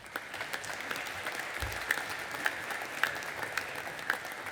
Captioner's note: audience applauding